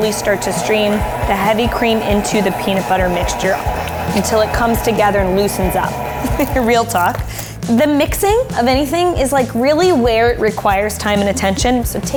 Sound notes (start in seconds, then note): 6.1 chuckling